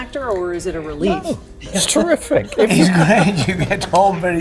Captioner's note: laughing